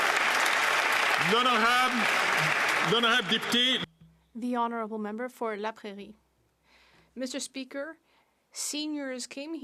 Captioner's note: some Applause